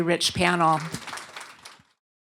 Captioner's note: applause